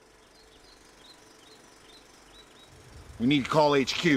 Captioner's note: birds chirping